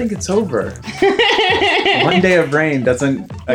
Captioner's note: laughter